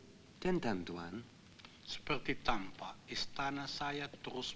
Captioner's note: Malay spoken audio